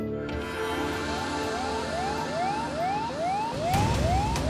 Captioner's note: siren wailing